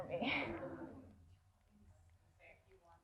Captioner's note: laughter